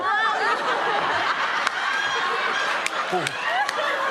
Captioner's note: laughter